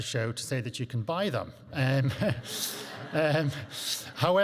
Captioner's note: chuckles